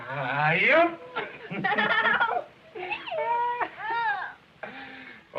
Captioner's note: both laughing